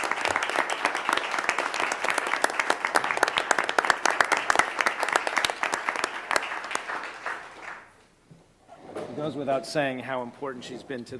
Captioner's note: applause